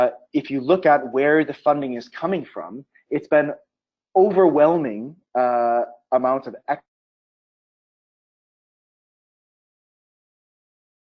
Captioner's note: audio cuts out